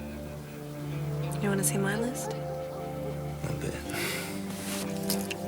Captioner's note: laughs